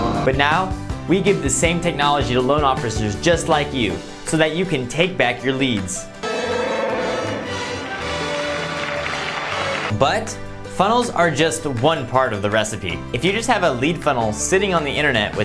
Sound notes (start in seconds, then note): 6.2 Wookiee roar; 6.2 crowd applauding